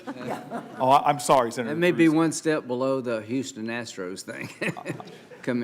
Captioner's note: laughter